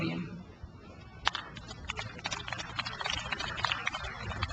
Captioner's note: crowd applauds